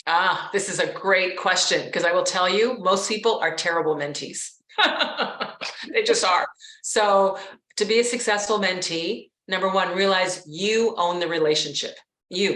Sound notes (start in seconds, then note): 4.8 laughs